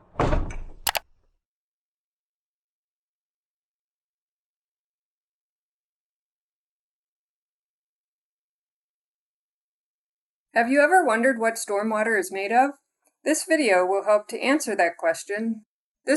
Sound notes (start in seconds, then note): 0.8 mouse clicking